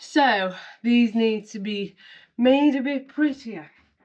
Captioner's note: none